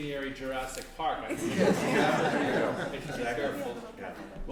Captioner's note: laughter